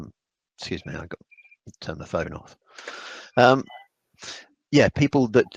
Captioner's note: phone rings